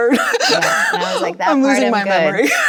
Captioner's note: both laughing